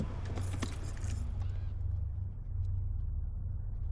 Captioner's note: keys jangling